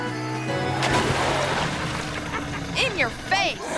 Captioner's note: water splashing